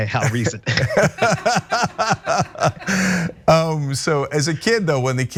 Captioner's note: laugh